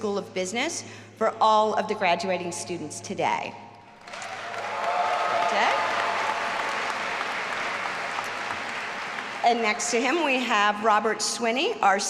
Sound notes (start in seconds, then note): 4.0 all applauding and cheering